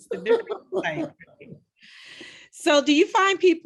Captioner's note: laughing